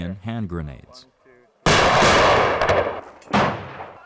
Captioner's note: explosions